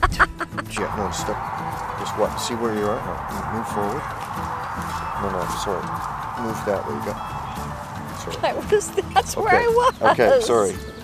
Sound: laughter; quietly

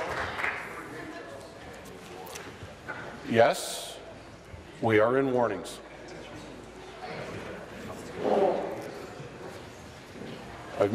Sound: applause

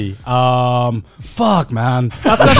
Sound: laughing

